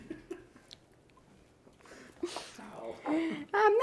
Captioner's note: person laughing